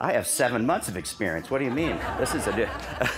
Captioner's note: laughter